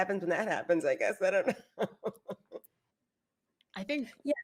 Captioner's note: laughs